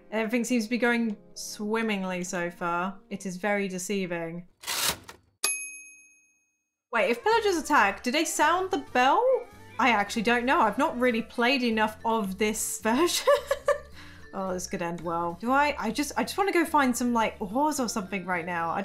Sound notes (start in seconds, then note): 4.6 typewriter cranks; 5.4 typewriter dings; 13.2 laughs